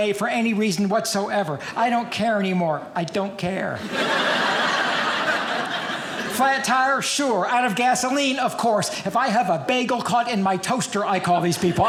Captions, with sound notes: for any reason whatsoever. I don't care anymore. I don't care. (audience laughing) Flat tire, sure. Out of gasoline, of course. If I have a bagel caught in my toaster, I call these people.